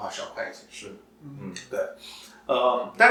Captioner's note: nonverbal grunt as interjection